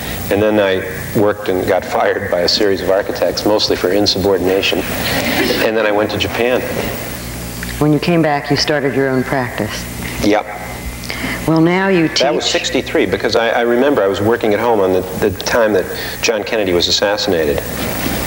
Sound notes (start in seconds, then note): 4.9 audience laughing